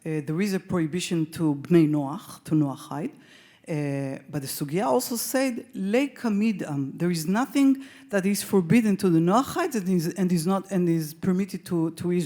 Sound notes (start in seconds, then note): 5.3 speaks Hebrew